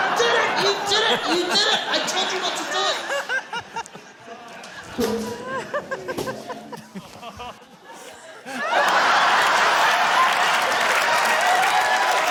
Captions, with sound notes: did it! You did it! You did it! I told you not to do it. (LAUGHTER, APPLAUSE)